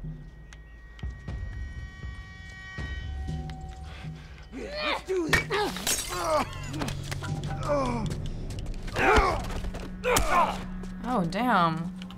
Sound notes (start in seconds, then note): 4.7 Ellie grunts; 6.9 groaning, grunting with impact